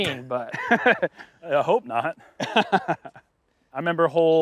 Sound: chuckles

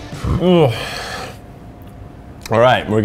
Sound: sighs

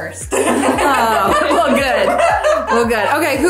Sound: all laughing

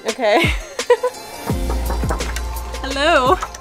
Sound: upbeat music; door knocking

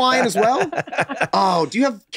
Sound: laughing

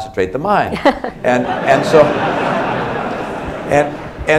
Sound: laughter

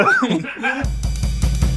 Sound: laughing; drum kit playing

